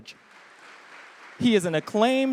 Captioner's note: audience applauding